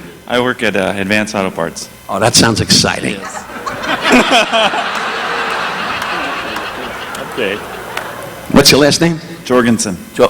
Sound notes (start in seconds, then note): 3.1 laughing; 3.1 audience laughing